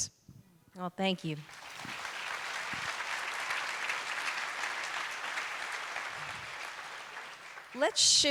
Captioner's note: applause